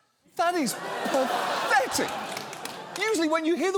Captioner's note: studio audience laughs